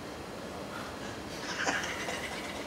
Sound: laughs

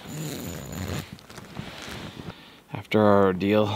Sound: zipper drags

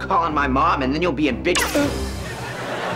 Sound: zapping

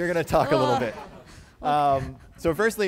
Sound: laughter

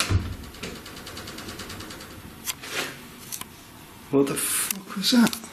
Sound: strange rattling

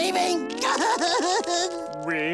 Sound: crying

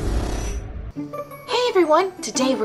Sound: voiceover

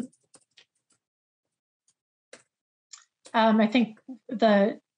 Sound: keyboard clacking

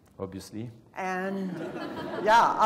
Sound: laugh

